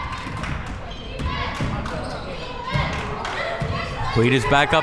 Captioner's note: crowd members chanting